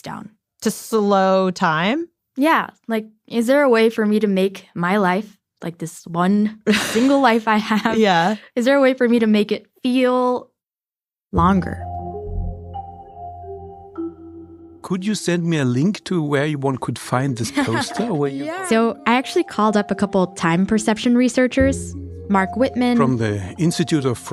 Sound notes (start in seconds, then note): 17.2 laughs